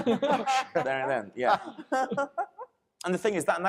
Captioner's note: panelists laughing